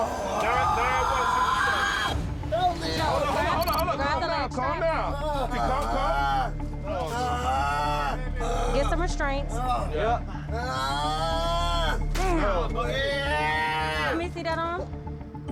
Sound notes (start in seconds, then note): 0.0 screaming; 7.0 screaming; 10.8 screaming